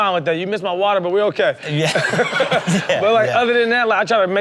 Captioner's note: laughs